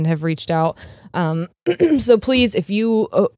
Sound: clears throat

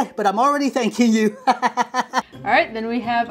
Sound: laughs

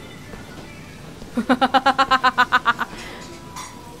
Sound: laughs

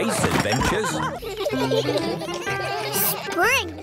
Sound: giggling

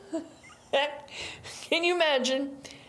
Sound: laughs

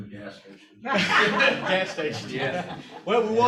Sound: laughter

